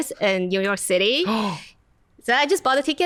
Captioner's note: gasps